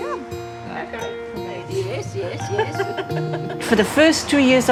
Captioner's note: laughter, indistinct chatter